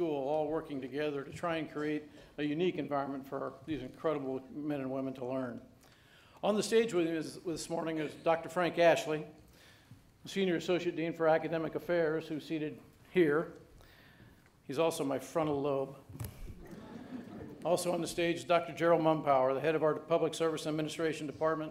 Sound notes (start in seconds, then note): 16.6 audience laughing